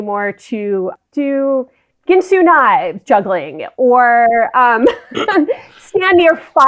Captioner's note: laughs